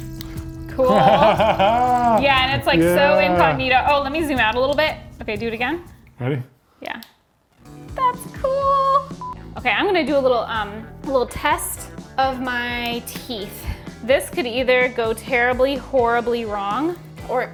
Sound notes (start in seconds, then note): 0.8 laughs; 8.8 screen beeps